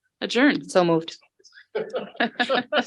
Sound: board members laughing

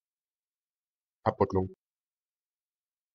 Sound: fast Pronunciation

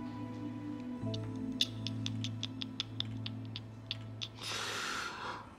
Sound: man clicking tongue

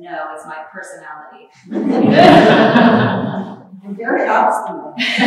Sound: laughter

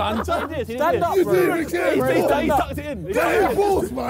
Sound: Sidemen yelling

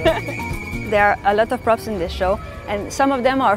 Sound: laughter

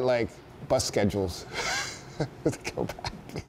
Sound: chuckles

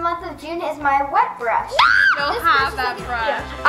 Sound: shrieks

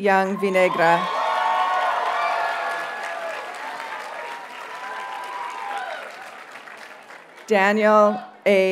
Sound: audience cheers and applauds

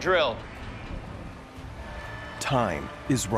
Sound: ferry siren wails

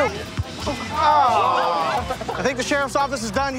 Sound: spring breakers groan

